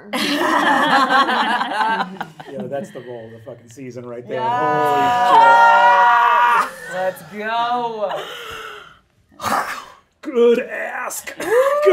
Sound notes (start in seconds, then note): 0.1 all laughing; 5.0 shouting excitedly